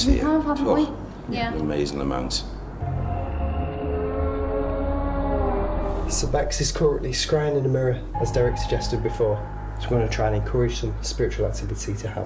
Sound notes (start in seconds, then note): 2.5 creepy music; 2.7 whining